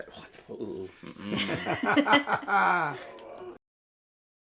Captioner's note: laughter